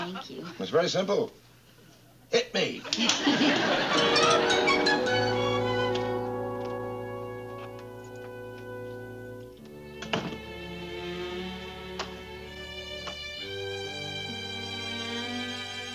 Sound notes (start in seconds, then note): 2.9 laughing